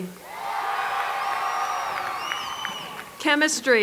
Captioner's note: applause